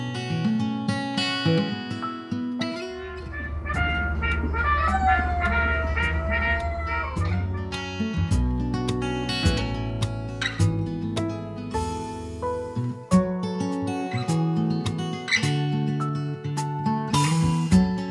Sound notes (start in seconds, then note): 2.8 military trumpet music; 4.9 dog howling; 7.8 soft acoustic music